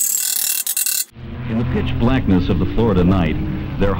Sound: engine sound

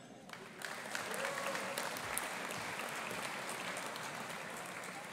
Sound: audience applauding

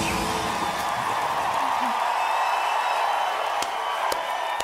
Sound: crowd cheering

